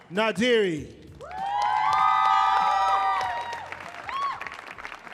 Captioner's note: audience applauding